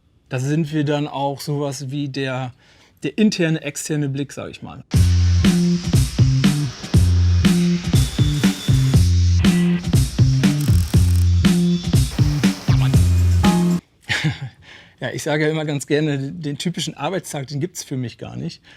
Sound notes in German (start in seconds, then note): 4.8 Maschinengeräusche im Hintergrund